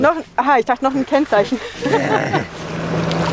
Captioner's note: laughter